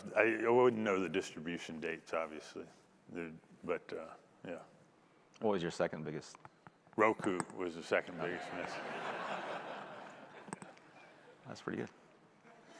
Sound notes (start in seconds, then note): 8.2 audience laughing